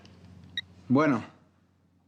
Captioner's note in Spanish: Suena el teléfono